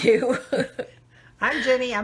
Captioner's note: laughing